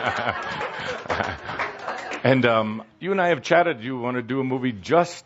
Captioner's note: laughter